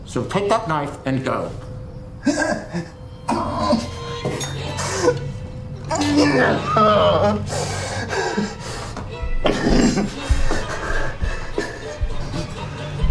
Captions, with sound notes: So, take that knife and go. (Miles grunts) (eerie music) (Miles pants and grunts)